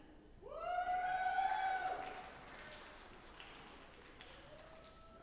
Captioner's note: audience applauding